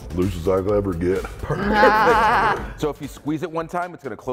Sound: laugh

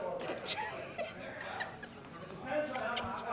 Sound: laughter

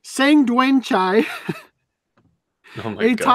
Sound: laughs

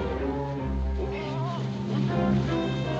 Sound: muffled moaning

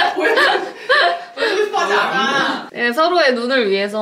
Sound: laughing

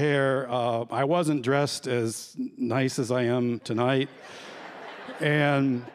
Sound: laughter

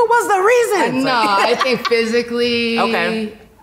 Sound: laughs

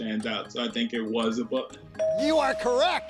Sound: bell dinging

